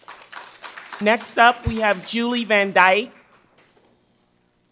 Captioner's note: audience applauds